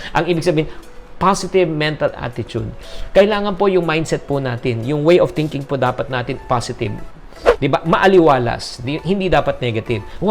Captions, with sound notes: What it means is -- positive mental attitude. Our mindset has to be -- our way of thinking should be positive. [Swoosh] Right? Refreshing. It must not be negative.